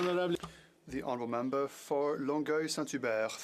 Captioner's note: speaking French